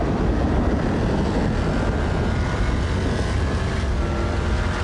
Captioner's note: loud muscle car engine sound; thunder sound